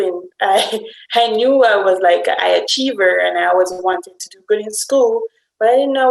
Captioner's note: laugh